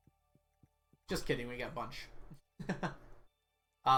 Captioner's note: chuckles